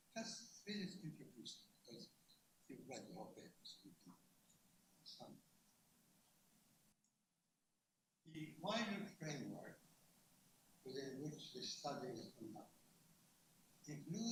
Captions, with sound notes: and I'm going to read a couple pages, (speaks away from mic) The wider framework within which this study is conducted,